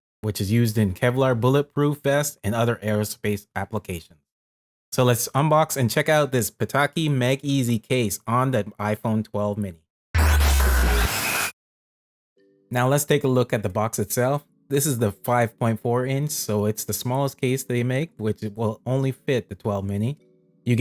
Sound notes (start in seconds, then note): 10.1 fast technological sounds